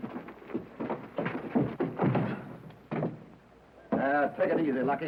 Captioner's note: punch thudding